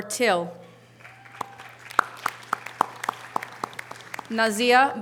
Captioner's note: audience applause